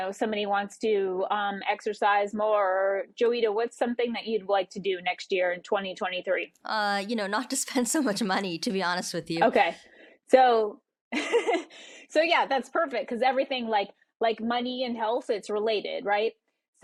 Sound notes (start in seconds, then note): 10.8 laughs